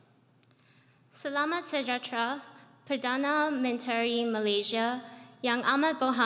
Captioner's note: speaks in foreign language